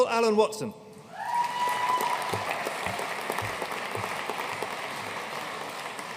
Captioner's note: audience cheering and applauding